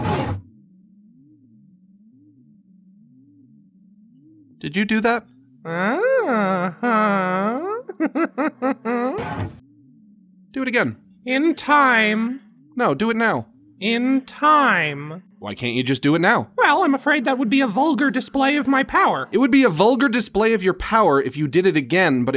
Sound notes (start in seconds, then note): 5.6 giggles